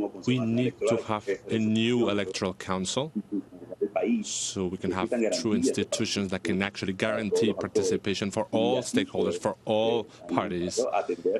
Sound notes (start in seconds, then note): 5.6 speaking spanish